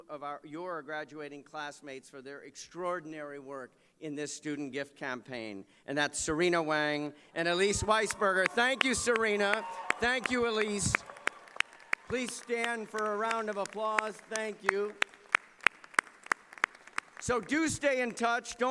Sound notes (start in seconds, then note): 15.3 applause